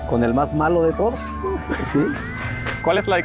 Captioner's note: laughs